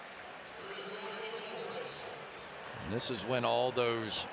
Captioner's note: whistle